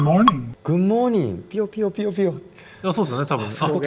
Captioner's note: tweet tweet tweet